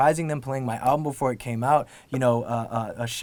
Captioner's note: none